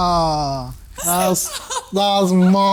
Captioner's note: laughs